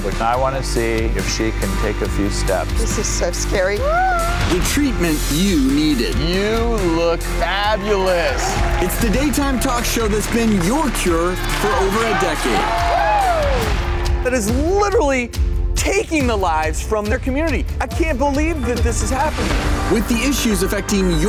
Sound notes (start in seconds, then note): 3.6 woman exclaiming; 12.6 crowd cheering